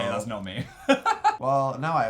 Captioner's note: laughing